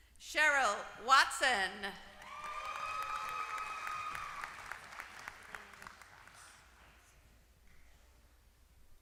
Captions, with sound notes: >> Cheryl Watson. >> [APPLAUSE]